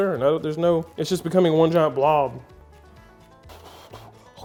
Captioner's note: exhaling